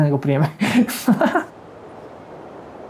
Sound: laughs

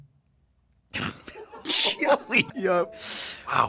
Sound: laughs

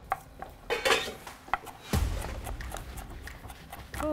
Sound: knife chops

